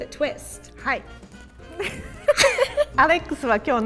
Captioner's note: speaking in Japanese